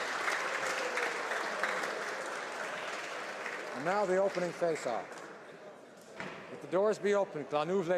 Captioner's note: applause